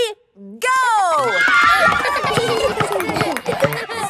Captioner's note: kids screaming; laughter